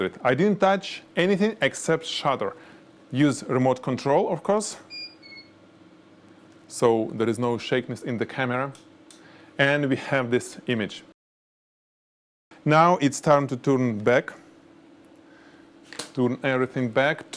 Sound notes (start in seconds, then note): 4.9 camera beeping